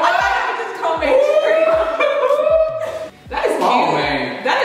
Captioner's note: whooping